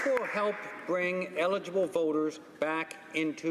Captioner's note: some applause